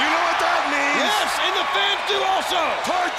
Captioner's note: crowd cheering